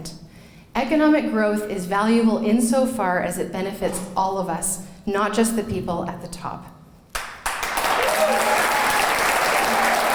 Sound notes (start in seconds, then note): 7.1 clapping